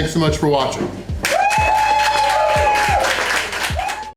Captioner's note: crowd clapping and cheering